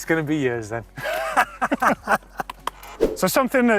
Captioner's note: laughter